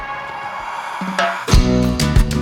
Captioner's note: cheering